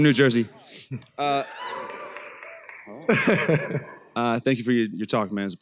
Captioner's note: applause